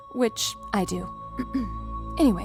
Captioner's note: clears throat